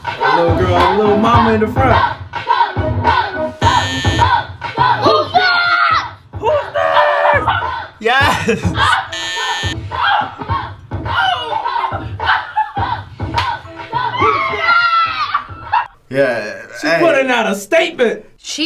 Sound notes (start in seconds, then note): 0.0 upbeat music; 3.6 buzzer rings; 9.0 buzzer rings